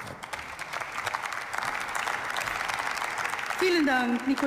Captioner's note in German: Beifall